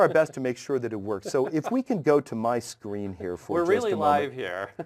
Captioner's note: laugh